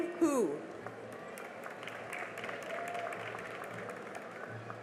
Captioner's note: cheering and applause